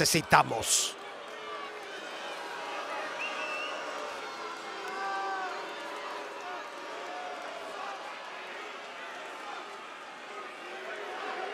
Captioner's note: applause